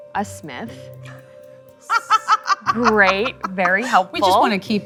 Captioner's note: laughs